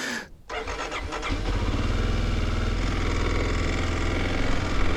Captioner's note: laughs; motorcycle engine roaring